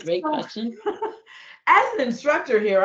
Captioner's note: laughing